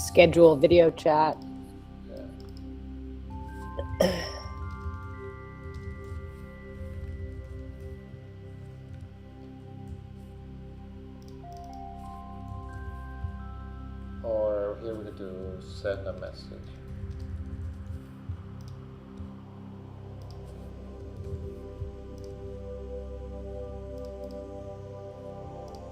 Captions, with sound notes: - Schedule a video chat. (keyboard faintly clacking) (mouse clicking) - Or it will do send a message. (mouse clicking) (gentle calming music continues)